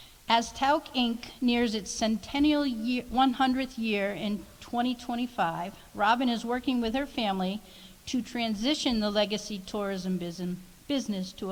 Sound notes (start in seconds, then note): none